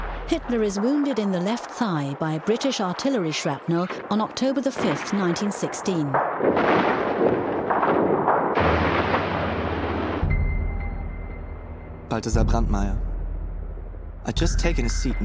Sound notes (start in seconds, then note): 6.2 booming; 8.6 ominous music